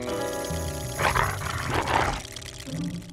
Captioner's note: growls